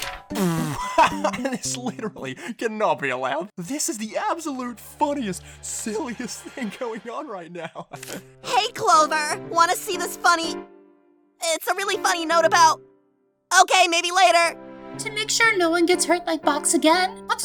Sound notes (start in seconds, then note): 7.6 chuckles